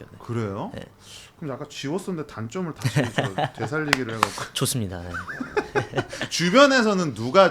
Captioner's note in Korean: 웃음